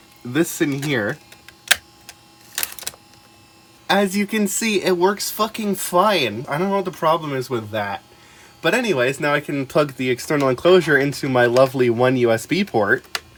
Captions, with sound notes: This in here. (clicks CD into spindle and slots the drive closed) As you can see, it works fucking fine! I don't know what the problem is with that. But anyways, now I can plug my external enclosure into my lovely one USB port.